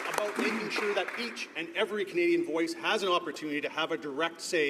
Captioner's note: some Applause